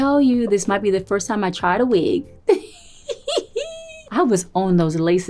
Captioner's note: giggles